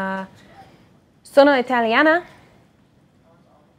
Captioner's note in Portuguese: Falando em italiano